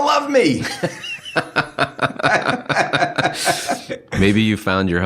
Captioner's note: laughing